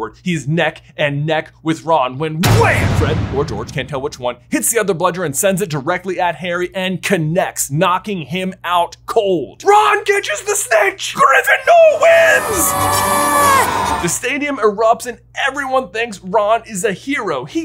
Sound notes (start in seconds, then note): 11.9 children cheering